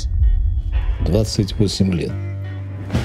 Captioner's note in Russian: Закадровый голос